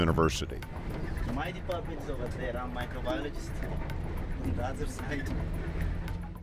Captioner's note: foreign Language